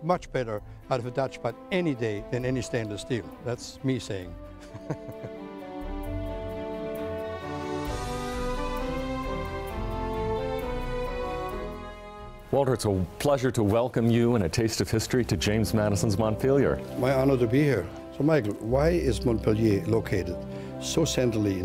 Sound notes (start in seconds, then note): 7.7 laughs